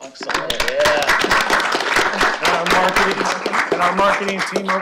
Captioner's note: applause